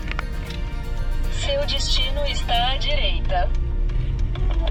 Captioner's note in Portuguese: Voz do GPS